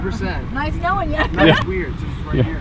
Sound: laughs

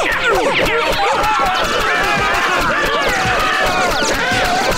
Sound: screaming

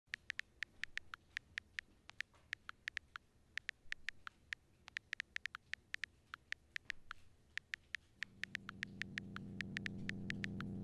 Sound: cell phone typing

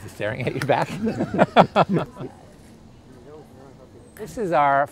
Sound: laughter

